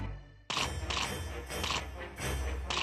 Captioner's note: none